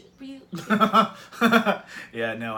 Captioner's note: laugh